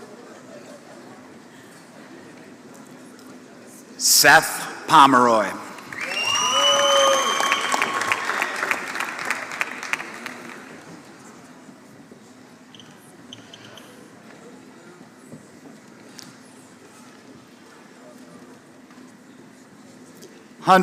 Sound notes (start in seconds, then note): 5.7 applause